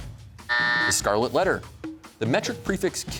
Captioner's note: buzzer sounds